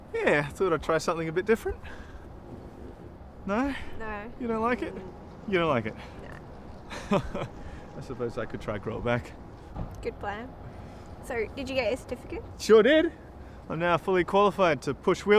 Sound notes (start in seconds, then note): 6.8 laughing